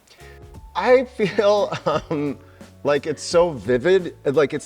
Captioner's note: chuckling